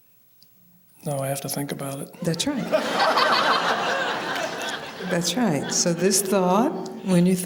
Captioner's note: laughter